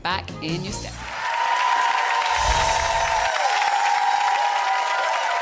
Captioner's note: audience applauds